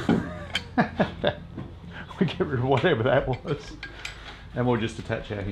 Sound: laughs

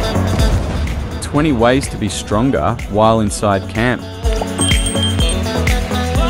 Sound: loud explosion

